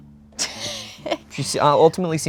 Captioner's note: chuckles